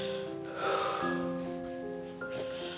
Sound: sigh

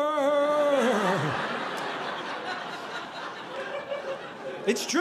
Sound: audience laughing

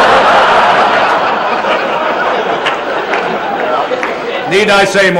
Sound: laughter

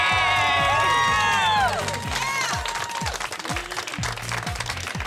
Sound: cheering and clapping

